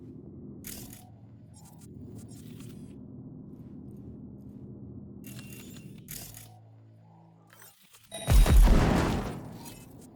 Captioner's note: thunder